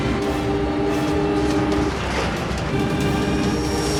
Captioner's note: plane engine roaring; storm raging